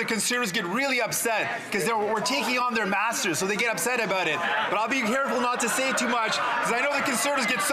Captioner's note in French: voix de l'interprète